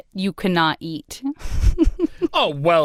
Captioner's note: chuckles